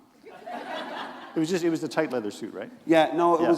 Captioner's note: laughter